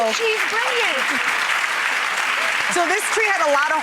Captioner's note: applause